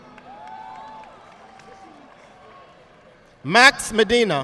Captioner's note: audience applauding